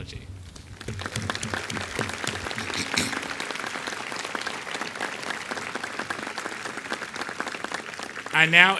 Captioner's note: applause